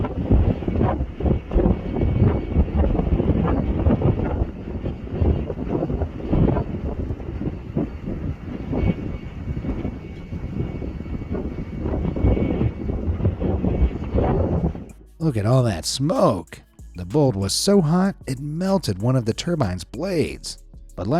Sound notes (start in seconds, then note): 0.0 turbine blades squeaking; 0.0 wind gusting; 5.3 wind gusting continues